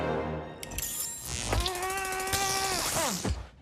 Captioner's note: electricity crackles, man grunts